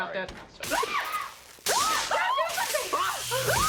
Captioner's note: DEAN and ANNIE screaming